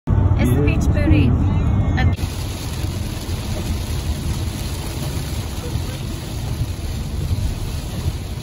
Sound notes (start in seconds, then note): 2.1 raining